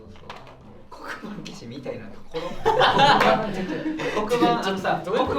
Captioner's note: everyone laughs